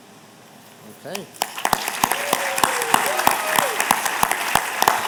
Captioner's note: applause